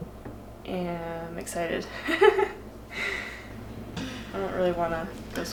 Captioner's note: laughing